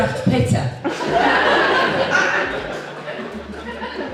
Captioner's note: audience Laughs